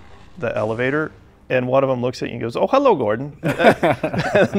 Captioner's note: laughing